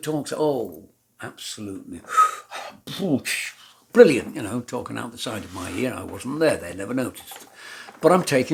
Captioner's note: false admiration noises